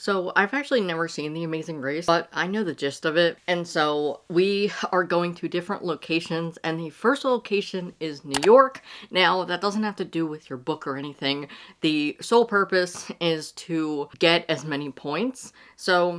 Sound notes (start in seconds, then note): 8.3 mouse click